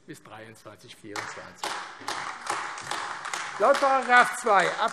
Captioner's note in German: Beifall AfD